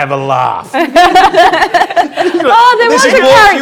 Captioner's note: group laughs